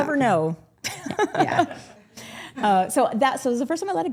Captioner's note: group laughing